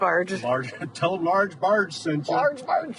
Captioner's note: laughs